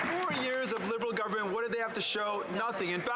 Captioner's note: some Applause